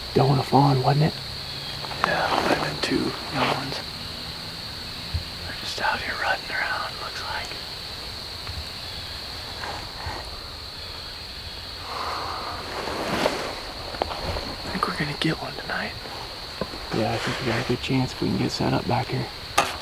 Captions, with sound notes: Doe and a fawn wasn't it? Yeah may have been 2 little ones. They're just out here running around it looks like. (insects/birds) I think we're gonna get one tonight yeah I think we got a good chance if we can get set up back here.